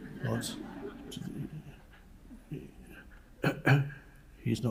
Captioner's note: audience laughing